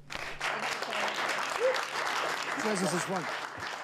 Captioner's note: indistinct chatter